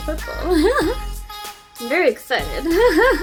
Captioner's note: laughs